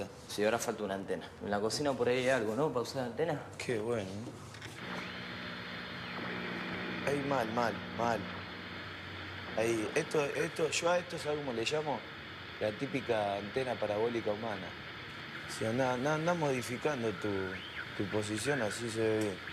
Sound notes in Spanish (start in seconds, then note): 4.7 interferencia